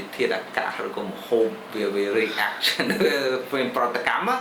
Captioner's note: laughs